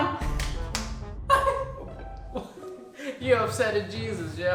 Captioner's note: laughing